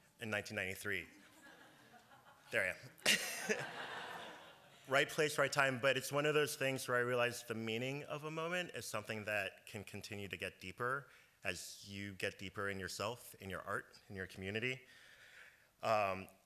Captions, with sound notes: in 1993. There I am. [Laughter] Right place, right time, but it’s one of those things where I realized the meaning of a moment as something that can continue to get deeper as you get deeper in yourself, in your art, in your community.